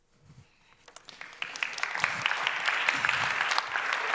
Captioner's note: audience applauds